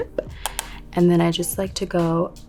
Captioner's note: brush tapping